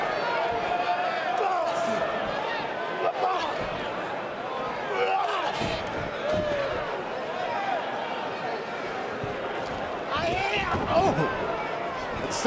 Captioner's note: crowd chatter